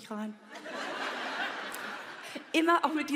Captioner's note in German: Lachen